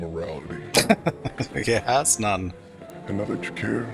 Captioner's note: laughing